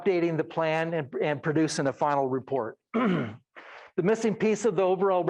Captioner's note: clears throat